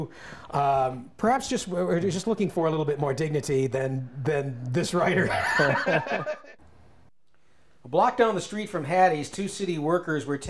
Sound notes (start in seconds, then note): 5.1 laughs